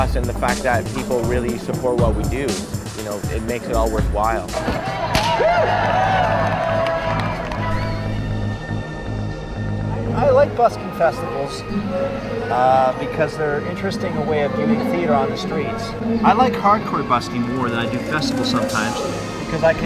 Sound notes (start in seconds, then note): 5.1 whip cracks